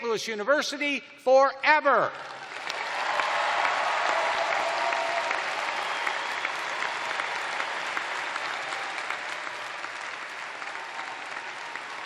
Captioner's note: cheers and applause